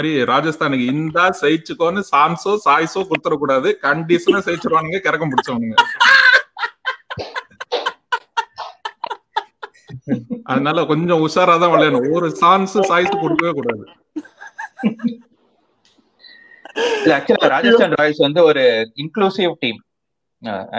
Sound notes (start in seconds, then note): 5.8 laughs